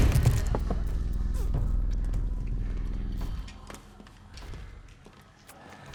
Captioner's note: sucking